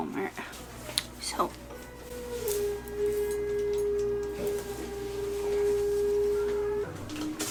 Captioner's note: loud whirring noise from outside